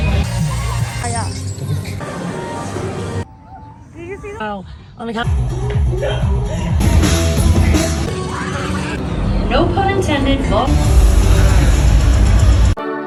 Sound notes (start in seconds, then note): 0.0 upbeat music; 5.8 both giggles; 6.9 rock music; 9.6 upbeat music; 12.9 lively music